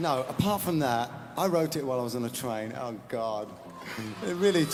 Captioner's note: laughs